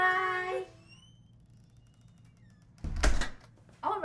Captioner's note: door creaks; clatters